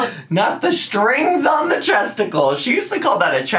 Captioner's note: laughs